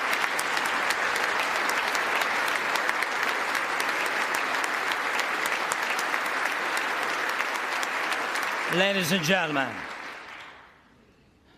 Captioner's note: applause